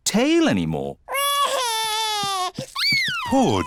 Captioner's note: crying